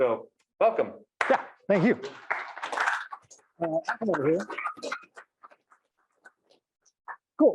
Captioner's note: audience clapping